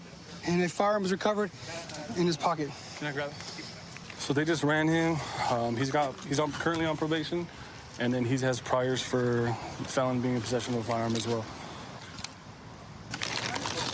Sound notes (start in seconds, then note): none